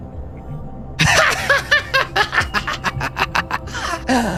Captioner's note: laughter